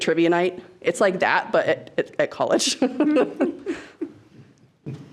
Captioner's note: laughs